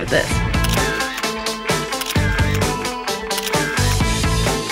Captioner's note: camera shutters